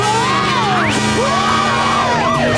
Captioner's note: screaming